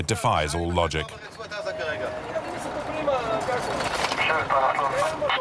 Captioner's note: French spoken audio